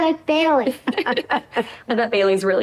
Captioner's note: laughter